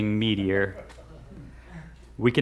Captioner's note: laughs